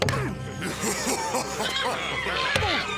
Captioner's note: laughing